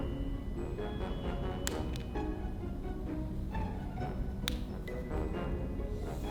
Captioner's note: hair elastic ASMR